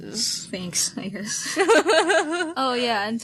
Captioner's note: ahuehuehuehue